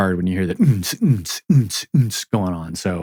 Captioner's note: grunting